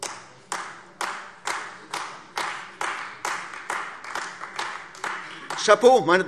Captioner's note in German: Beifall AfD